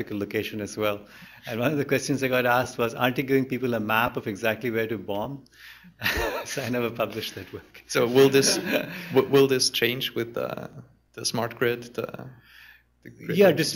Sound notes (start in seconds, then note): 6.0 laughter; 6.0 laughs